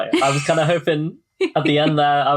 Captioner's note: laughs